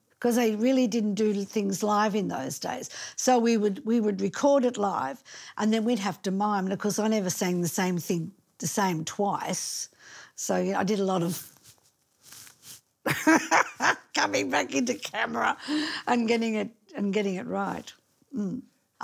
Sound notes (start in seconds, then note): 13.2 laughing